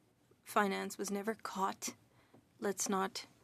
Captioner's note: speaking French